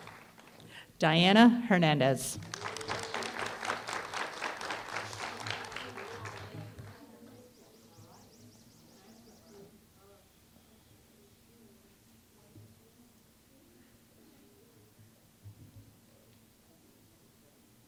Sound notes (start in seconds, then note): 2.3 applause